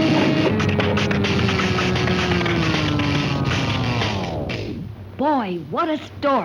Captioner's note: refrigerator powering down